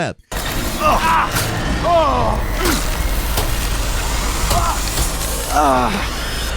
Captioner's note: robot whirring; character groaning